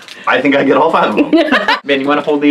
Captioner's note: laughing